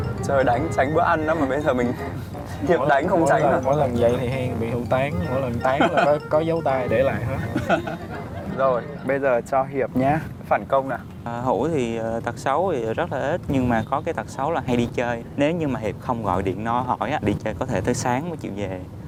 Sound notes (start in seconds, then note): 4.8 huu